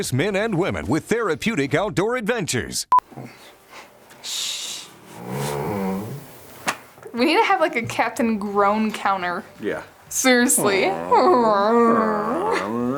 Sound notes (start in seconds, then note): 2.8 beep; 4.9 hand slaps; 5.1 dog groaning; 10.2 groaning; 10.2 groans